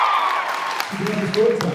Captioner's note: cheers, applauds; applauds